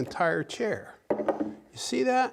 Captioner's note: wood cluttering